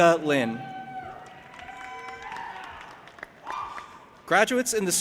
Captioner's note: audience applauding and cheering